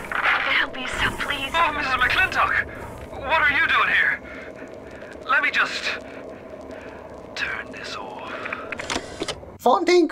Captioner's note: slowly stammers back to normal voice